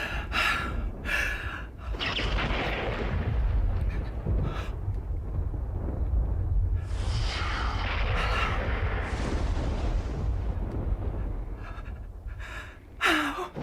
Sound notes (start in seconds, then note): 3.3 thunder rumbling